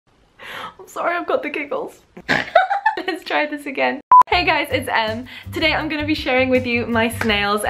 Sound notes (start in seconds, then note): 1.9 snort; 2.2 giggle